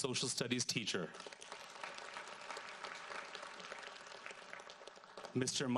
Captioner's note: audience applauds